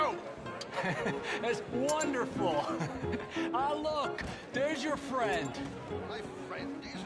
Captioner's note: chuckles